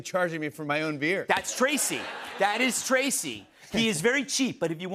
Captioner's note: laughter